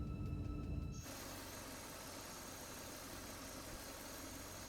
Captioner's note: vehicle droning